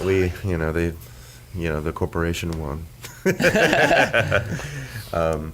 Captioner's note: laughs